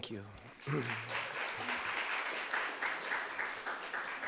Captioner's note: audience applauds